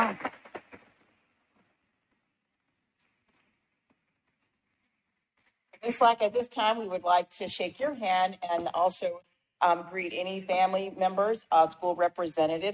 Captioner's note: applause